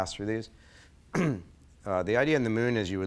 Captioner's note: clears throat